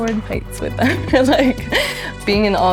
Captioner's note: laughs